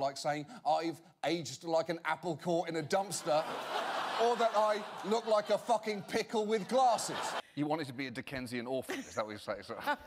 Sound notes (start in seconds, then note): 3.1 audience laughter